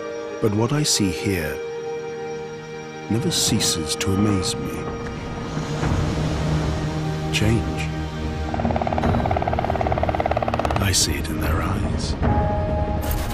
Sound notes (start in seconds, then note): 0.0 voiceover; 8.2 helicopter flying